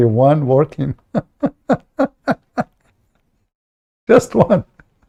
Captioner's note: Ketawa